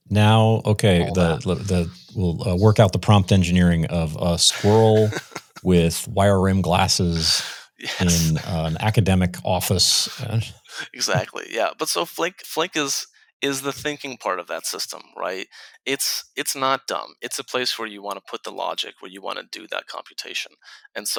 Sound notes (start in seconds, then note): 7.8 laughs